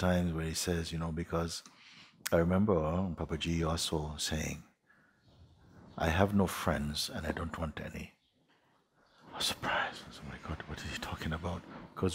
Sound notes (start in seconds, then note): none